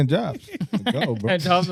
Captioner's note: laughing